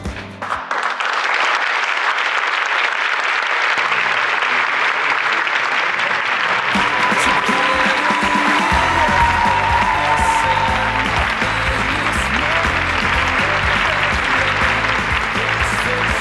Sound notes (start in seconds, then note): 10.5 the audience gave a huge round of applause